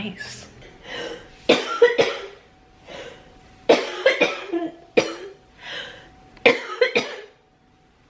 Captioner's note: coughing